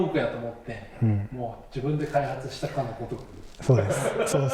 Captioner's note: laughs